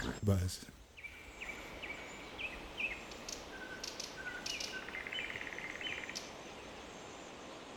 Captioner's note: birds chirping